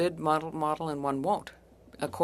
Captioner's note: speaking French